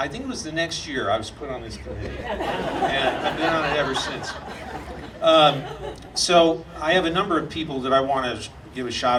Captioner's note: audience laughing